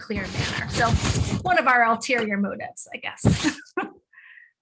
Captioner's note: laughing